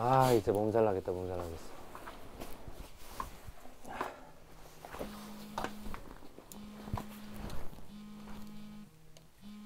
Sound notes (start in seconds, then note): 5.0 his phone rings